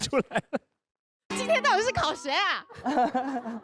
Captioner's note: pretty girl weeping